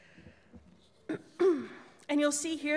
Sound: clears throat

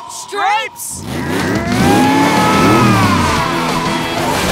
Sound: roaring

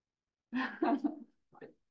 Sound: laughs

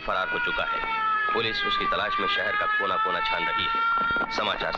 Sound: police siren blares

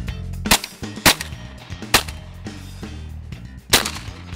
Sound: gun firing

